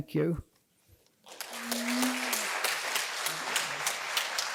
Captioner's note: applause